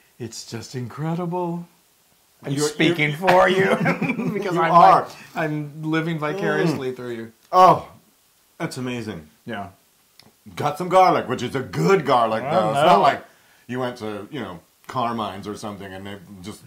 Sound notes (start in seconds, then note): 2.6 laugh